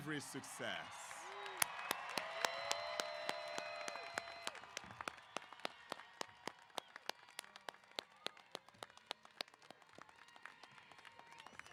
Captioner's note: applause & Cheers